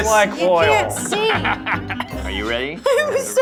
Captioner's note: laughs